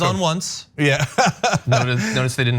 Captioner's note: laugh